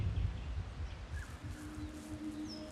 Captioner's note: birds chirping